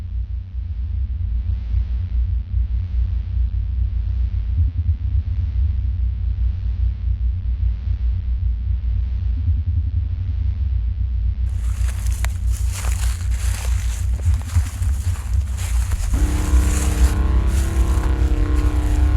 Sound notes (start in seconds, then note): 11.4 footsteps through leaves